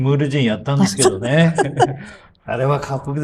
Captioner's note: laughs